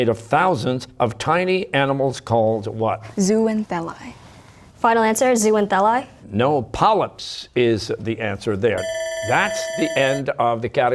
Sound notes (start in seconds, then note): 3.4 whispering; 8.8 bell ringing